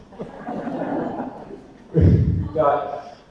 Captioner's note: audience laughter